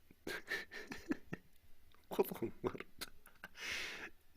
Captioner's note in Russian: смех